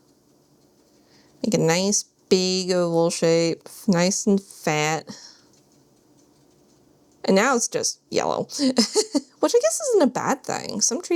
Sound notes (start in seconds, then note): 8.6 giggles